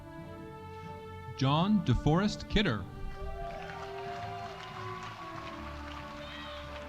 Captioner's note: audience applauding